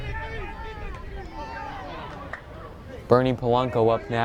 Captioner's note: fans yelling